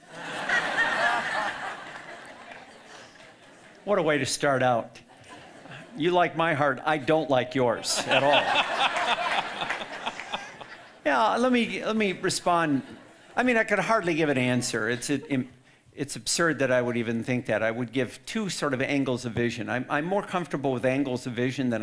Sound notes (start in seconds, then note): 0.0 audience laughing loudly; 5.0 audience chuckling; 7.7 audience laughing loudly